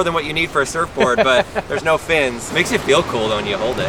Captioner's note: laughs